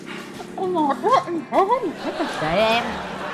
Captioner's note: laughing